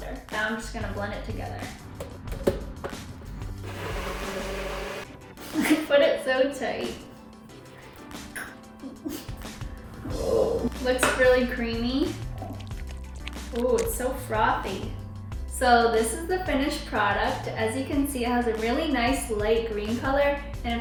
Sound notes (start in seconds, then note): 3.5 blender mixing